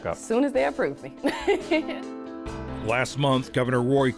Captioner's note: laughs